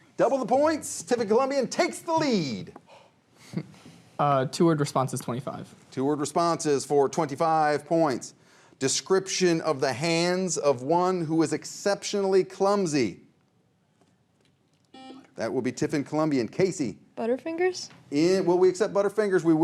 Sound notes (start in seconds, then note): 14.9 buzzer rings